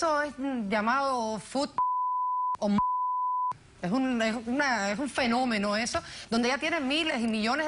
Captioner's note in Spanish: Bip